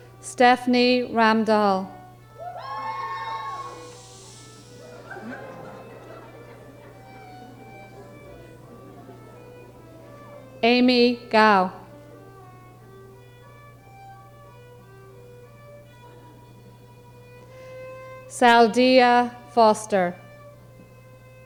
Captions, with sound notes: Stephanie Ramdahl. (audience whooping) (audience shushing) (audience laughing) Amy Gao. Saldia Foster.